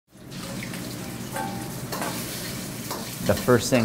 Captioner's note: egg frying in wok